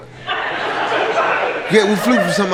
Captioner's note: laughter